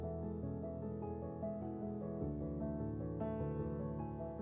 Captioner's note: none